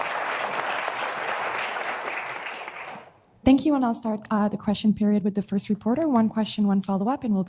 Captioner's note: applause